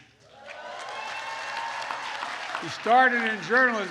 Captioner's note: applause